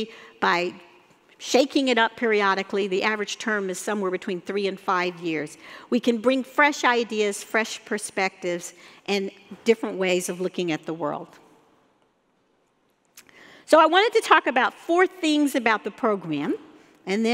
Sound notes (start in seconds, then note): none